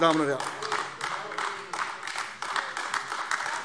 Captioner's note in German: Beifall AfD